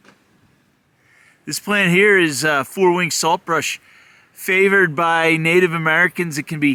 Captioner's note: footsteps crunching